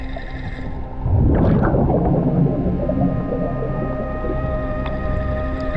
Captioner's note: water bubbling continues